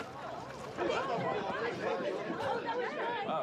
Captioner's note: crowd chattering